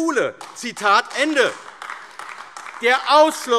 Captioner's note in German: Beifall AfD